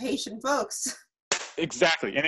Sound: claps

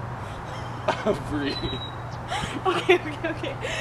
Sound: laughing

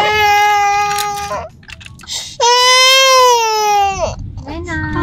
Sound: baby crying sound

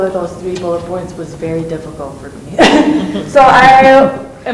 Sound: laughs

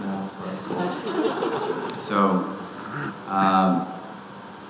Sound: audience laughing

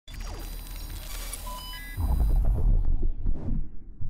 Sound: digital blips

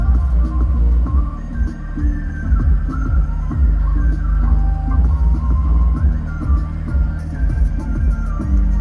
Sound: car sounds

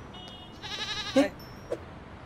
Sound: goat groaning

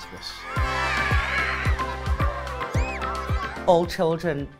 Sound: children cheering

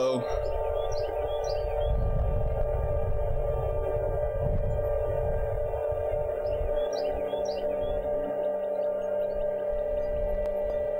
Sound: eerie Sound

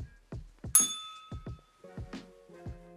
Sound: bell rings

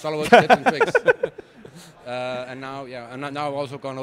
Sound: group laughing

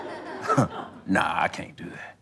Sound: audience laughter; chuckles

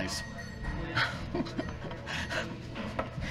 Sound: laughing

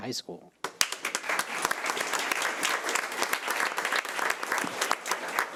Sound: audience applauding

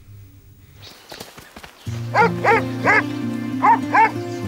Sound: barking

